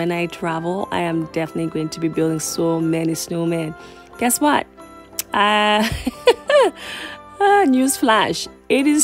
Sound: laughter

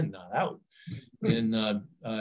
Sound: chuckles

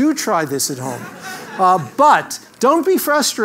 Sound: laugh

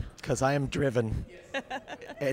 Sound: laughing

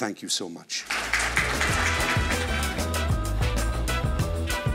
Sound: applauding

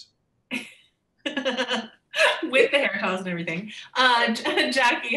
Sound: laughing

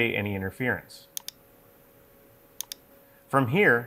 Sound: mouse clicking

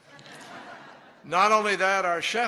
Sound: laughter

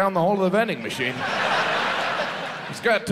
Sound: audience laughs

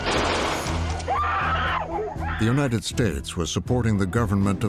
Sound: guns firing, people scream

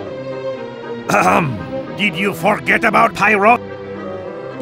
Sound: ahem

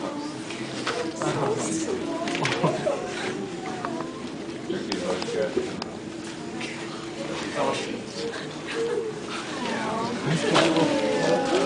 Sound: awws

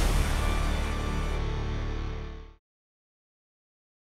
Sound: powerful sound

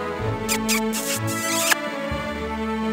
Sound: kiss

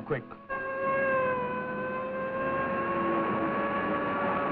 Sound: sirens blaring

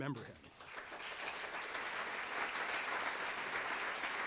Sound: audience applauds

